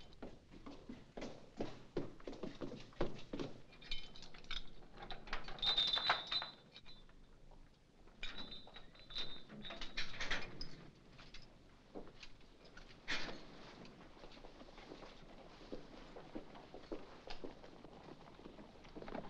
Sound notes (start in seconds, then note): 0.1 footsteps; 3.7 chain clattering